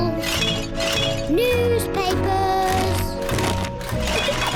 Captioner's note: bottles clink; newspapers thud; giggles